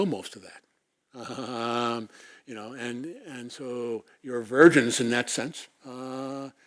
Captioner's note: laugh